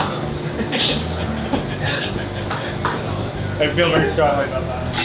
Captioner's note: laughter